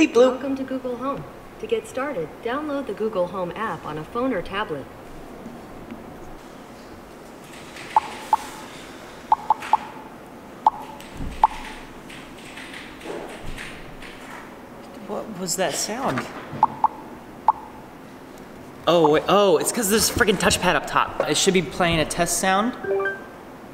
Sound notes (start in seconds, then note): 7.9 Google Home makes popping sounds; 16.6 continues making popping sounds; 22.8 plays test sound